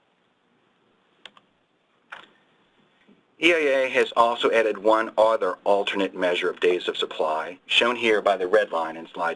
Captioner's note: clicking sounds